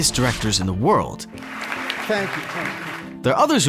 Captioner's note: people clapping